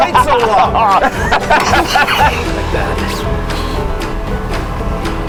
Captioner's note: laughing